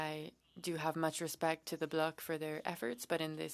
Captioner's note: speaking French